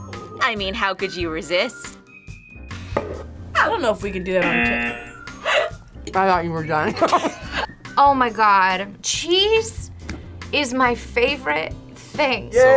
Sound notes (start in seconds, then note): 4.4 buzzer; 5.4 laughs